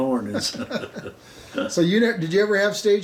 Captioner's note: both laughing